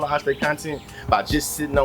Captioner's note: birds Chirping